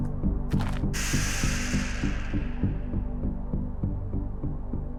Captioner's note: distant snarling